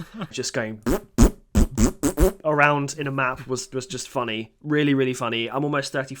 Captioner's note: fart noises